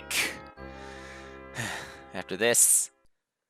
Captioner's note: sigh